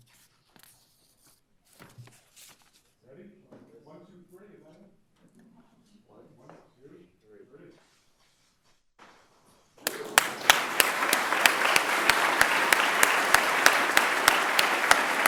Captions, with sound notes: - Ready? 1, 2, 3. 1, 2, 3. (audience clapping)